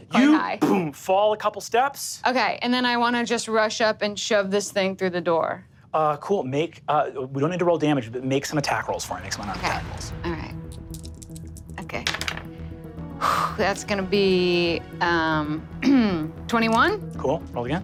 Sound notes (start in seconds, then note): 13.2 sighs; 15.8 clears throat